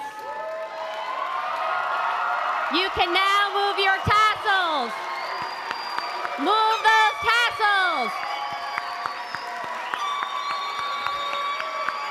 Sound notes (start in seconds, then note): 0.2 applause; 8.2 applause